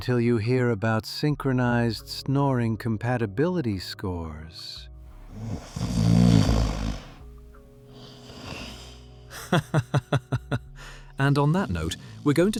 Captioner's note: laughs